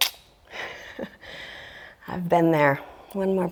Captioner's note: laughs